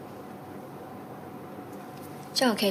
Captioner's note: none